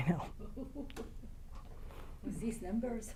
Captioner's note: audience member laughs